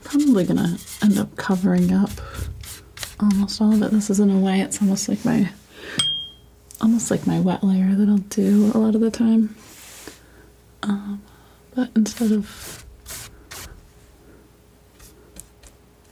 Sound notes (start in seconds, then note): 6.0 ding; 12.1 scratching